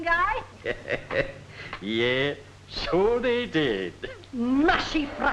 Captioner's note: laughs